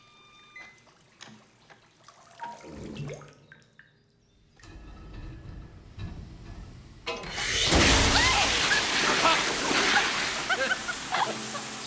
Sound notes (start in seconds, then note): 4.4 pipes rumbling; 7.2 water blasting; 11.0 laughing